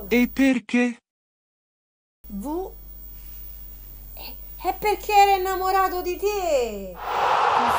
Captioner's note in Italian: Applauso